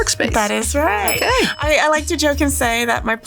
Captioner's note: bell dings